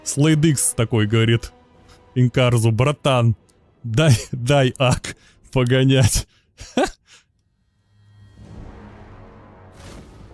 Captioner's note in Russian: смех